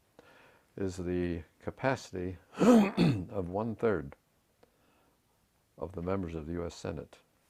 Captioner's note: cough